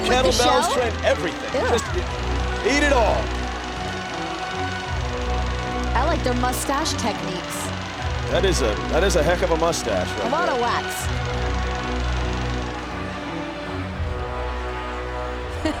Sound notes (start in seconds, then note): 5.1 crowd cheering